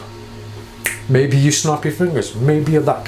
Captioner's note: snaps